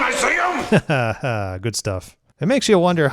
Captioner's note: laughs